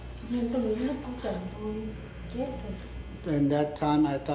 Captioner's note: speaking Vietnamese